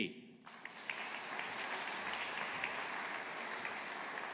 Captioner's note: audience applauding